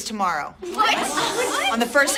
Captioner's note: students protesting